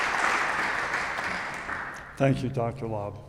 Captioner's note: audience applauding